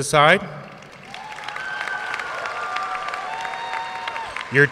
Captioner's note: audience cheering and applauding